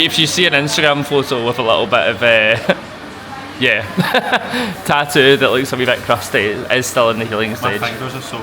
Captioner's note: laughs